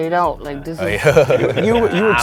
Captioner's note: laugh